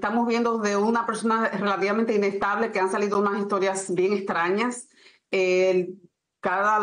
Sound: HABLA EN INGLéS

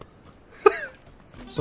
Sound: chuckles

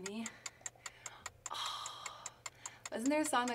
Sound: clock ticks

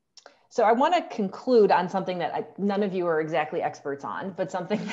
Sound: laughter

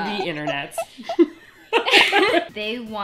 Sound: laughter

